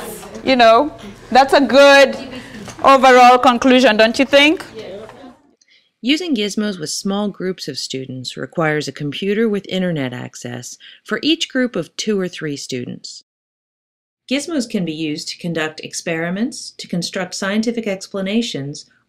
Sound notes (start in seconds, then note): 0.0 students laughing; 6.0 voiceover